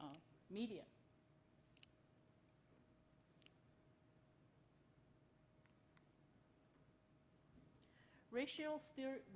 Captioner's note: silence